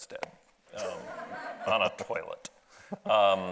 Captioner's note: audience laughs